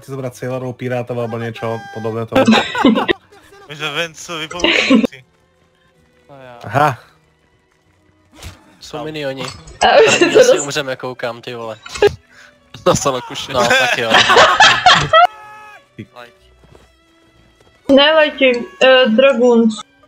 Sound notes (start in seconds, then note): 2.3 laughter; 13.2 laughter